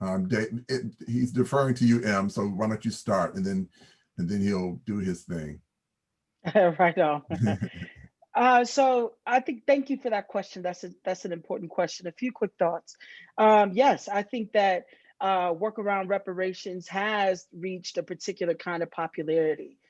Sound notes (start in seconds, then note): 7.2 chuckles